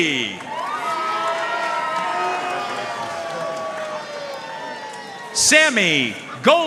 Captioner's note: audience cheering and applauding